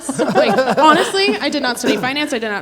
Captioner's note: everyone laughs